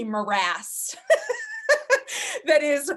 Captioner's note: laughing